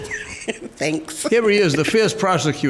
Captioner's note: laughs